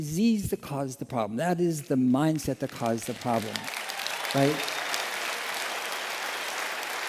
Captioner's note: applause